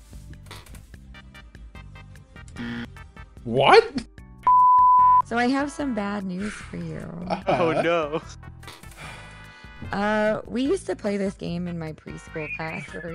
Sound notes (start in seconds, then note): 2.7 buzzer; 3.3 in disbelief; 4.5 buzzer; 8.9 sighs